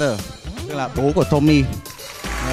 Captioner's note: Vietnamese